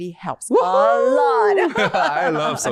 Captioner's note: cheer